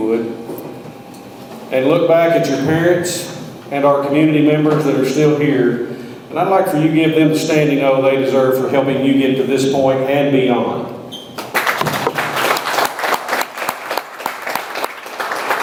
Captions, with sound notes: and look back at your parents and our community members that are still here. And I'd like for you to give them the standing oh they deserve for helping you get to this point and beyond. (audience applauds)